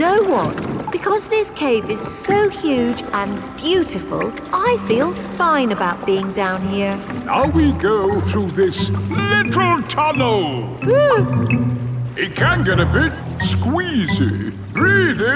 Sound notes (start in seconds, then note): 10.8 whimpers